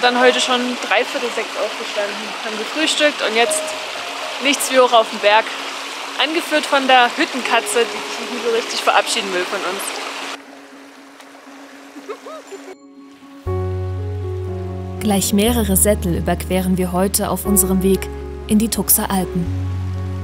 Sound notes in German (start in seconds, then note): 11.9 Kichern